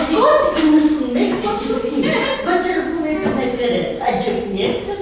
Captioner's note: laughing